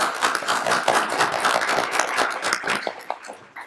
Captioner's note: applauding